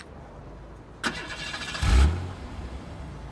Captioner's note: engine starts